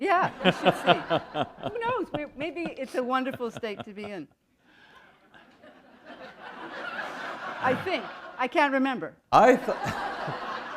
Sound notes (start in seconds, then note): 0.3 laughter; 5.8 laughter